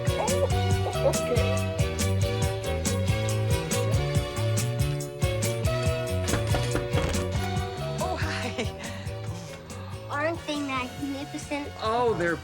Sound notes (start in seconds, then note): 3.2 funky music; 6.2 knocking